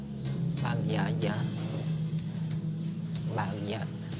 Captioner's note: non-english speech